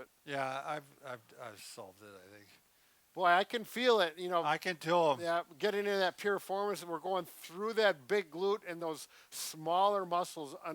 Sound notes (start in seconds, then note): none